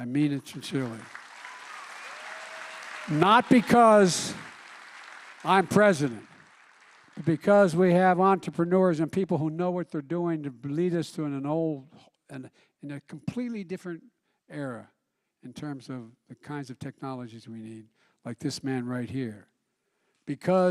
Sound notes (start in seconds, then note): 5.1 applause